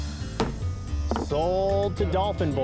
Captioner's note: gavel bangs